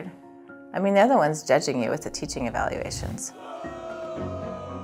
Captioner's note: students booing